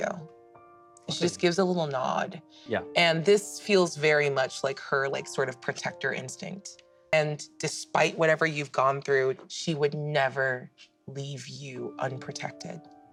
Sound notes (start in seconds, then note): none